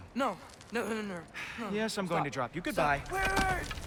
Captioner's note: sigh